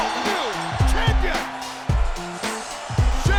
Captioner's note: bell ringing